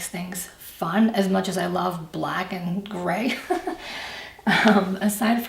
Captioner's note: laughs